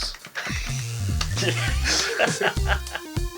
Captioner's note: men laughing at their own fragility